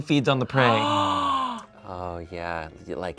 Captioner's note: gasps